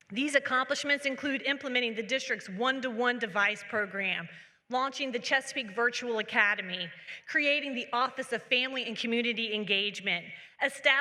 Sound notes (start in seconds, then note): none